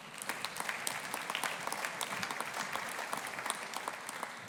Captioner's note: audience applauding